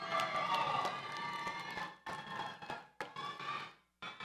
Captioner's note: audience cheers